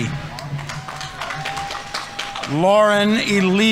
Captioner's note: audience applauding